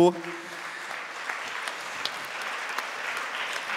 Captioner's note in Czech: Potlesk